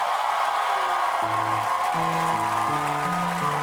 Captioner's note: audience cheers